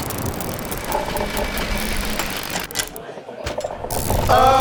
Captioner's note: box rumbling